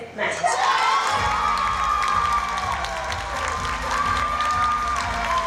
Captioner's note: cheering and applause